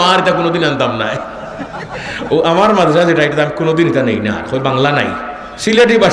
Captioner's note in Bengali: সশব্দ হাসি